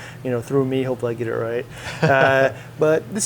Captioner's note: laughs